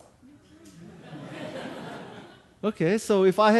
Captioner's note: audience laughing